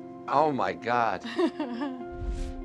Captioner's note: laughs